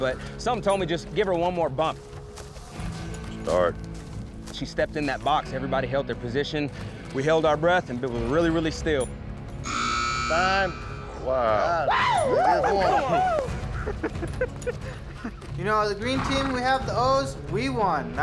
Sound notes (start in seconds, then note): 9.6 buzzer sound; 13.1 all cheering